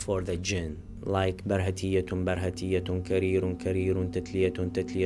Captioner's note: speaking in Arabic